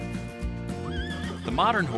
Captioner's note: horse neighing